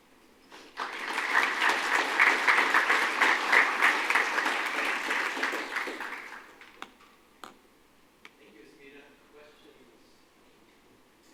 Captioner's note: applause